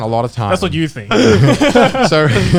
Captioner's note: guys laughing